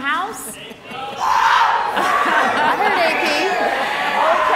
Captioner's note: audience cheers